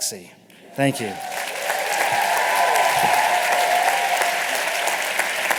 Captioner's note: applause and cheering